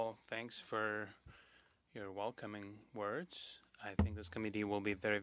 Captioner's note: speaking French